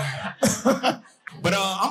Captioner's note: audience laughing